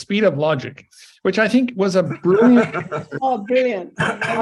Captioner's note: laughs